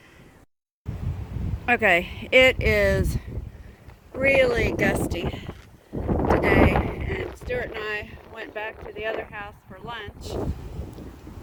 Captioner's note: wind blowing